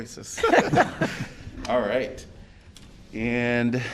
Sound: laughter

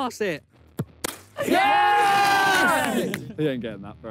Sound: players cheer

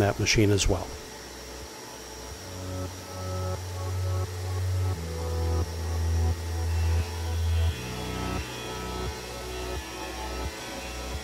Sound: machine whirring; background music playing

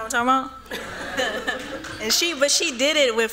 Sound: laughter

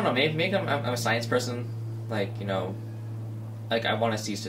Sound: students talking

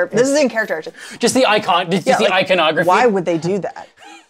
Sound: gasps

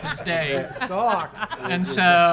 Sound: people laughing

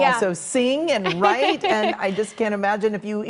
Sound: laughter

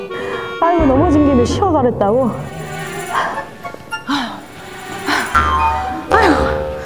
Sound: whew

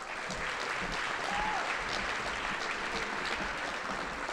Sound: audience applauding

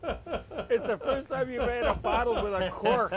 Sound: laughing

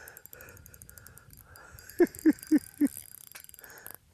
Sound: giggling

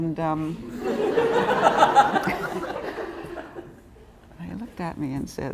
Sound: laughter

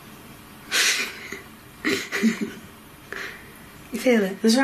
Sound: giggles

